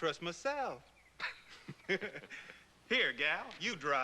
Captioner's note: both laugh